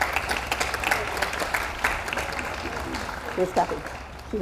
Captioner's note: audience applauds